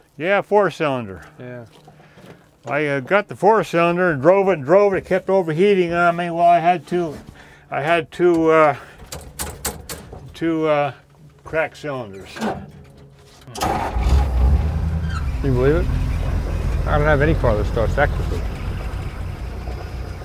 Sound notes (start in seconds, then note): 13.5 engine starts; 20.0 engine idling